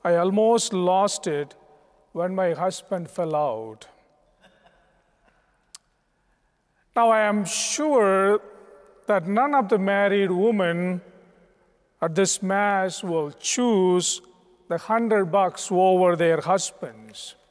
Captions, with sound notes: "I almost lost it when my husband fell out." (Crowd chuckling) Now, I am sure that none of the married women at this Mass would choose the 100 bucks over their husbands.